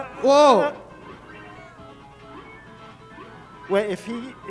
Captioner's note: game beeping